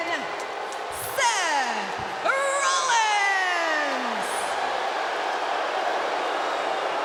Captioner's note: crowd cheering